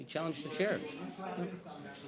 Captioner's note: mixed voices